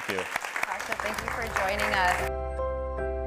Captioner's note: audience applauding; bright music